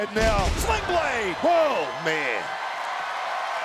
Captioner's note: applause